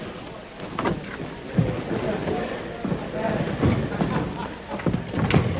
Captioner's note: crowd chattering